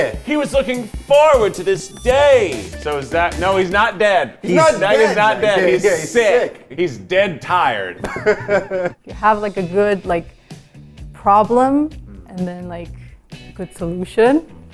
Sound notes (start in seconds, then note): 8.0 laughs